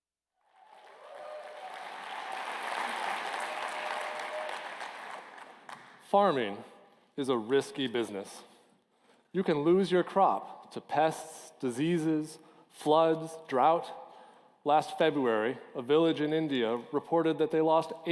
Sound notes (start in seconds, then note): 0.4 applause